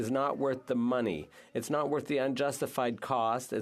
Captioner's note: speaking French